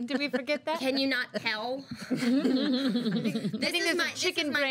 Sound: girls laugh

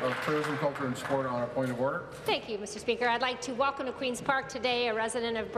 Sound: applause

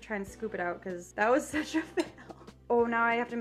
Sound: laughs

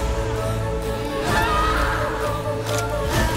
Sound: screaming

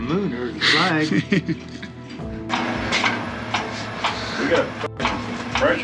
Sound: laughing

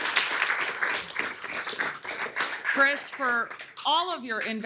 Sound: applause

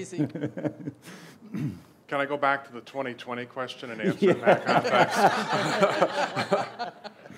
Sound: laughs; laughs

